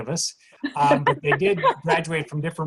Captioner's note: laughs